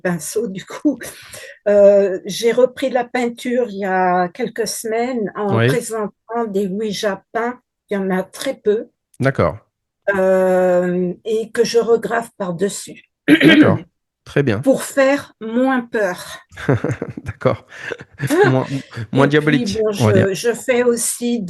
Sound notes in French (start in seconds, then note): 13.3 raclement de gorge; 16.5 rires